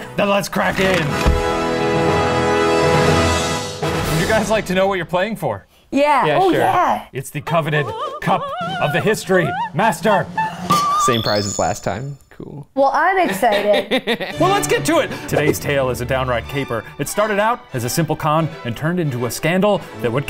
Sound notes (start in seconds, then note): 0.9 triumphant horn music; 8.2 choir singing; 13.2 laughs